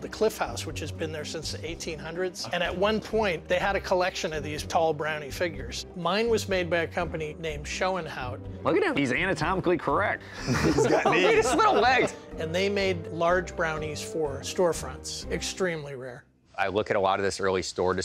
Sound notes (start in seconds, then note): 10.3 laughing